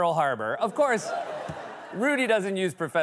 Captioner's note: laughter and cheering